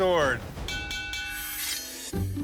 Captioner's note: dinging